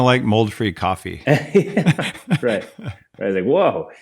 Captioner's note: both laughing